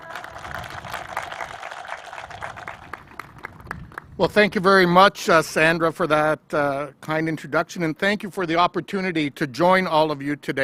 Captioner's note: applause